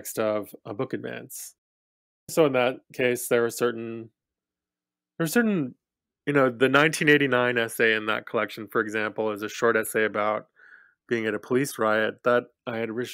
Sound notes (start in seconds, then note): none